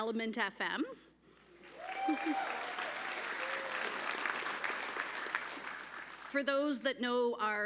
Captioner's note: applause